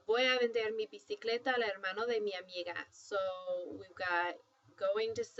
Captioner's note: spanish